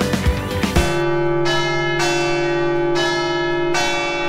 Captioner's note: bell tolling